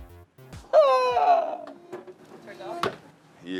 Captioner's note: exclaiming